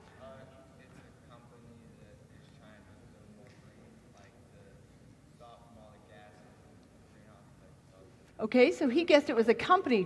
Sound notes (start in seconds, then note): 1.9 no audio